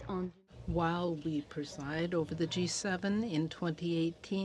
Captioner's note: speaking French